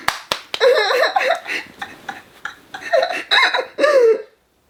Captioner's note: clapping; laughing